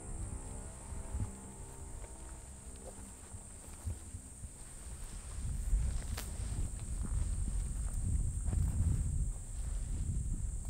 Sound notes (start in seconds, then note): 5.2 grass rustling